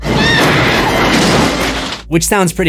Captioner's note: screams